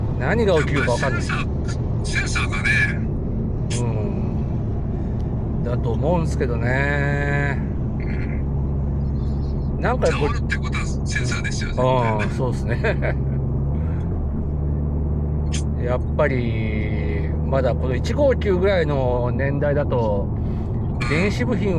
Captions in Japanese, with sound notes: 何が起きるかわかんない。 センサーセンサーがね。 うん。だと思うんすけどね。 うん。そうそう。なんかも[咳払い] ろってことはセンサーですよね。 うん。そうすね。[笑い] やっぱりまだこの 159 ぐらいの年代だと電子部品はちょっとまだまだって感じですかね。